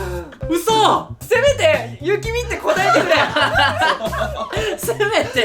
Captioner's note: laughs